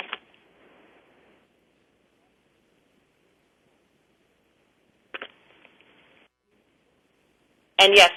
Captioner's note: pause